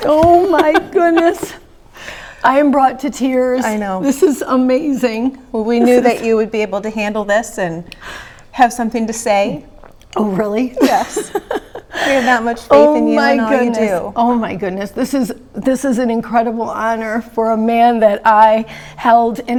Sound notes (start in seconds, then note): 10.8 laughing